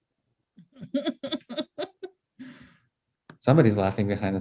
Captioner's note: participant laughing